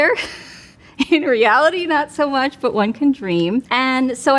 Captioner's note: chuckles